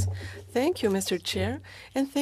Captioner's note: speaking in French